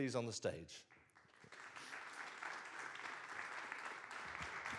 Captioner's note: audience claps